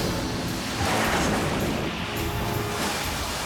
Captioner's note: boat crashes